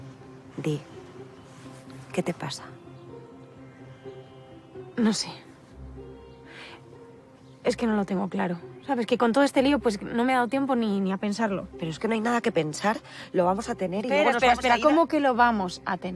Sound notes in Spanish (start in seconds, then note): none